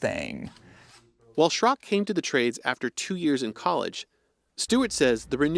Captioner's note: voice-over